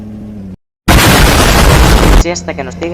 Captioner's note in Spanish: Explosión